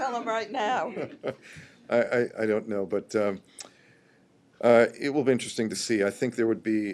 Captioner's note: laughter